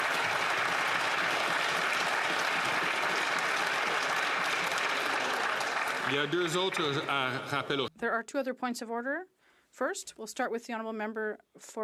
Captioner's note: applause